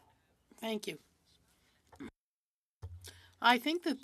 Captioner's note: speaking french